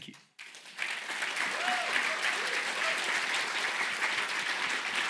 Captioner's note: applause